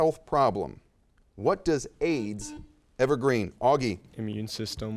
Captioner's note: buzzer chimes